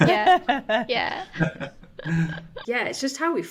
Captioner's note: panelists laughing